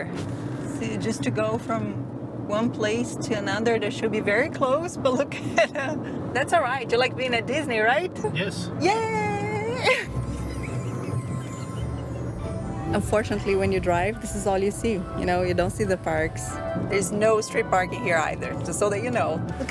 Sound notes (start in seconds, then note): 9.8 chuckles